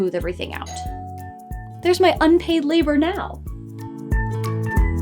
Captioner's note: doorbell Rings